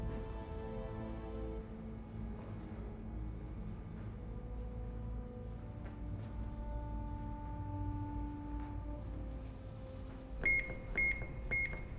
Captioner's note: phone beeping